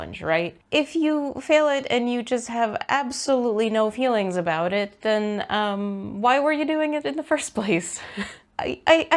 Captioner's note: laughs